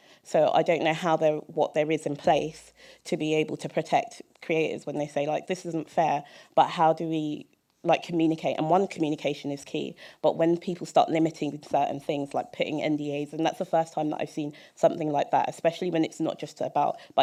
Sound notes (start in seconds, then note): none